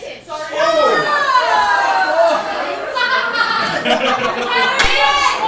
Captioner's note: audience laughing